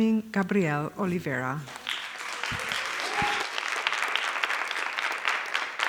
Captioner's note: applause